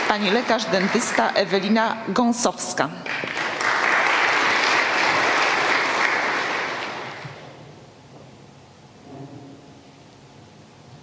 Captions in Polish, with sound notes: Pani lekarz dentysta Ewelina Gąsowska. [oklaski]